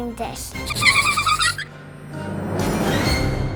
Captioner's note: giggles